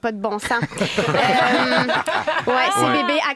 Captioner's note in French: rires